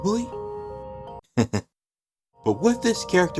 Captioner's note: laughs